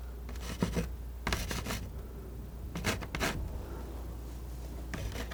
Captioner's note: scratching